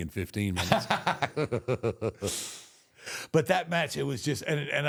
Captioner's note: Michael laughs